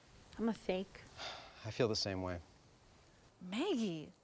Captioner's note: sighs